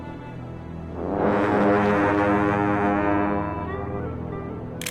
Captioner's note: blowing horn